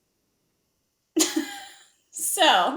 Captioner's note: Jen laughs